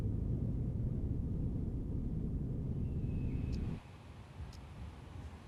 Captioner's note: birds chirping